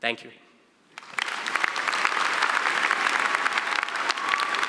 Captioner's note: applause